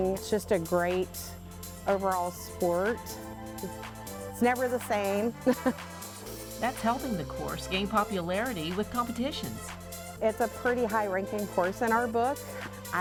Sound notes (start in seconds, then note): 5.4 laughs